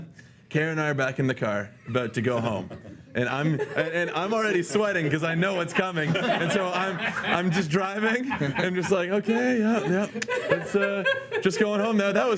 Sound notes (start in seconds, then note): 6.2 laughing